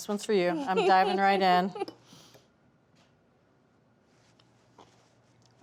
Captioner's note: laughing